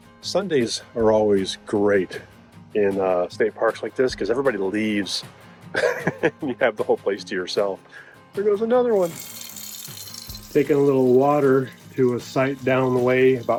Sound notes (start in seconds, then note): 8.9 water tinkling